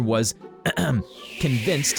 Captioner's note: clears throat